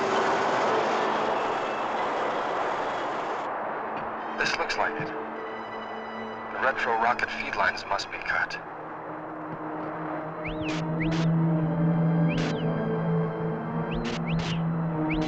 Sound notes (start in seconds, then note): 10.3 whistling